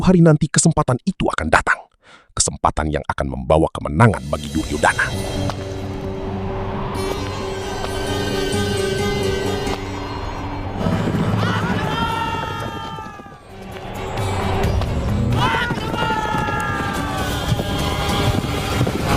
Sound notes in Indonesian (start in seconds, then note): 12.9 berteriak